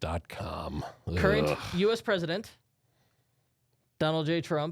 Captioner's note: softly groans